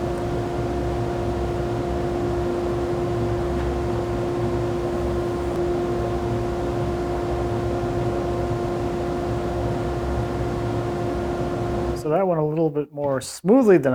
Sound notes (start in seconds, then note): none